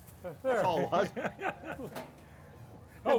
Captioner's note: laughs